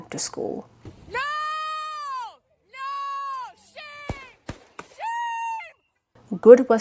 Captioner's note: gunshots